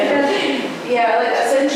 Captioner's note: laughter